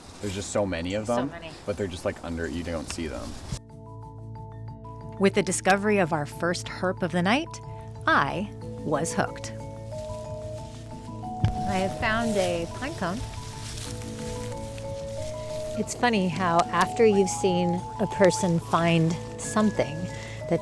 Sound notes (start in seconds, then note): 3.5 gentle music; 9.6 gentle music continues; 13.4 gentle music continues; 13.4 leaves rustling